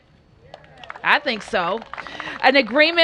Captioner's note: cheers and applause